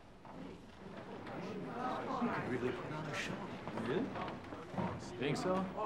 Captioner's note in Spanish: congregación murmurando